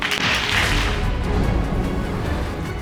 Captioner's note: audience applauds